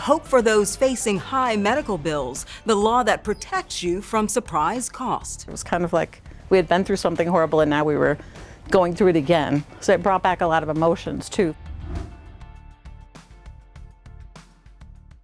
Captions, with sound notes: facing high medical bills, the law that protects you from surprise cost. - It was kind of like, we had been through something horrible and now we were going through it again, so it brought back a lot of emotions too. (air whooshing) (upbeat music)